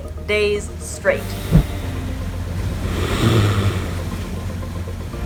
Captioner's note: walrus snoring sound